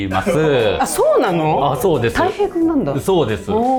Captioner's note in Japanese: 笑い